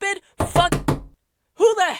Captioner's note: door knock